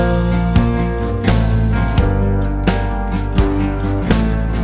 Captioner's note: nervous